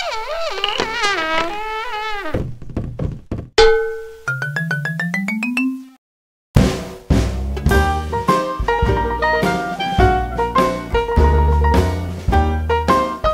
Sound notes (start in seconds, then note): 1.1 glasses fall. head bounces and rattles; 7.7 upbeat music